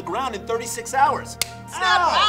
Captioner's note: slapping